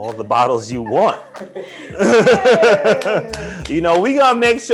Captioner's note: laughter